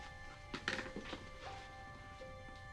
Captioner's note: floor creaks